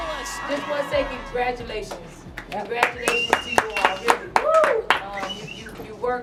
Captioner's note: clapping